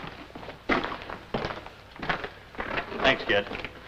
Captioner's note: footsteps